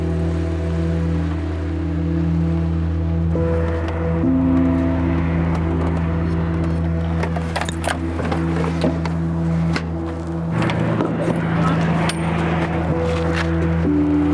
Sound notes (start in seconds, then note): 0.2 RV engine humming; 8.0 footsteps ringing; 10.9 traffic humming